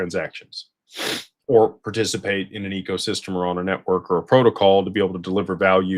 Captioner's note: snorts